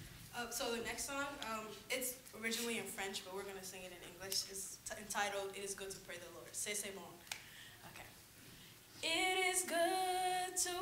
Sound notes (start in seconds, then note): 6.0 speaker says the title in French; 8.8 choir sings second song